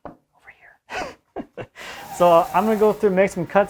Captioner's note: man laughs